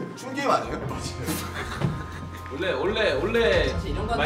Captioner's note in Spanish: Ríe